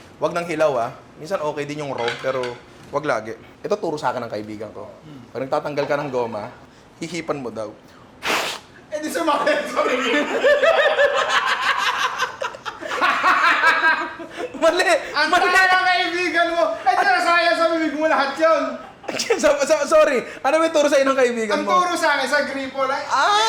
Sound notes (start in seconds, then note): 17.4 laughter